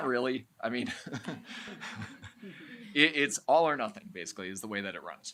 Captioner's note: chuckles